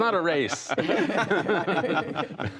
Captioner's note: laughter